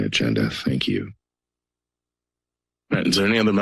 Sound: silence

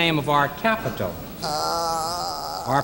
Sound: groans

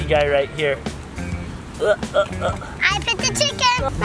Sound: grunts

